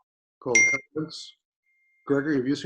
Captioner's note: beep